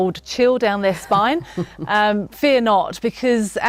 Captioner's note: laughing